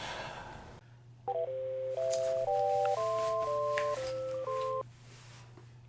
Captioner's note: national anthem ringtone